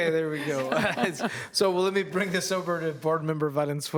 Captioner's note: some Laughter